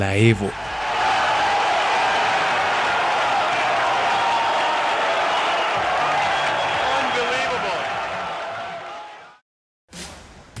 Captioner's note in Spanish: Público grita emocionado